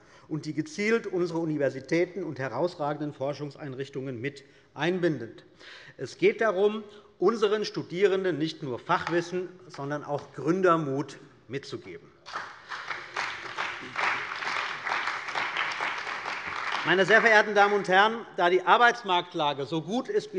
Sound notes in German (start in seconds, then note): 12.2 Beifall bei der CDU und dem BÜNDNIS 90/DIE GRÜNEN